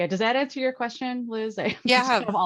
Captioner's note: laughs